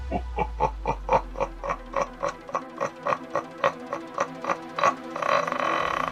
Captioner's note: creepy music; evil laugh